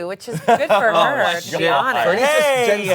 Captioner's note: all laugh and exclaim